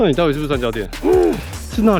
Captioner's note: sighs